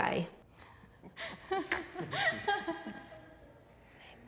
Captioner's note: people chuckling